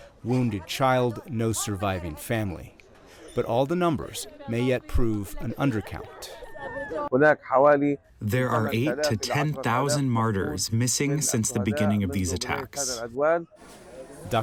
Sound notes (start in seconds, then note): 8.7 through translator